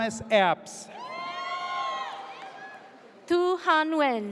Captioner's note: audience cheers